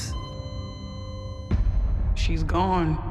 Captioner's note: machine beeping